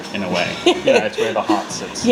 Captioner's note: laughs